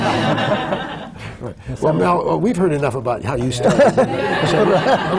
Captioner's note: laughter